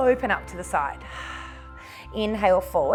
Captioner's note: exhales